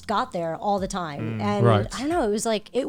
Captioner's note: guys humming in agreement